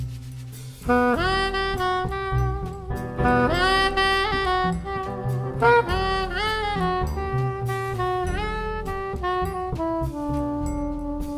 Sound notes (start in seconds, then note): none